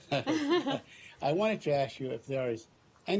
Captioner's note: laughter